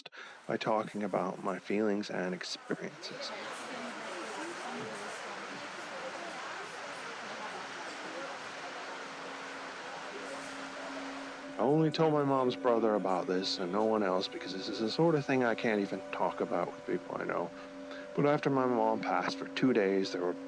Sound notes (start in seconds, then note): 4.5 customers chatter